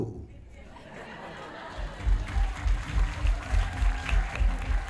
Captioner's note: laughter And Applause